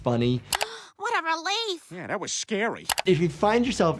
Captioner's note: gasps